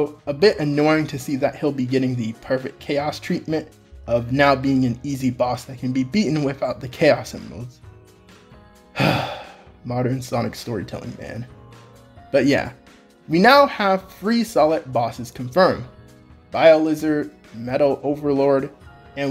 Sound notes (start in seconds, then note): 8.9 sigh